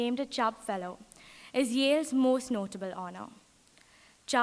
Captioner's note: none